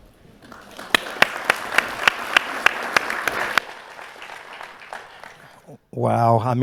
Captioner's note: and audience applauding